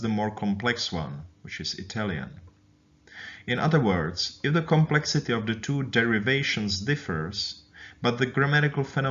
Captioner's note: Italian